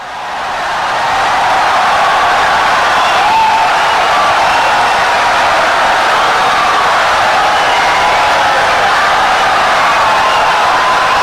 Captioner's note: wild applause and cheering for 17 seconds